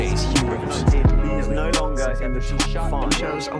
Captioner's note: reporters consecutively chattering